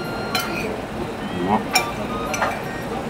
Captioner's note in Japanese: 小声